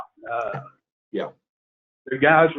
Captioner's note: chuckles